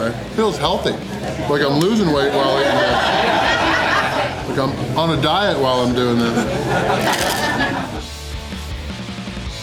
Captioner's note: crowd laughter